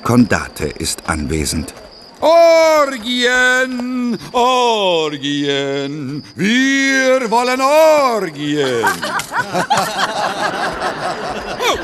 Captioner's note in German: gelächter